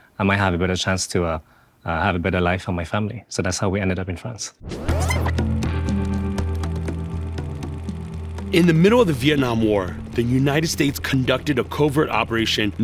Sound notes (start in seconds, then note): 4.6 tape rewinding; 4.8 intriguing music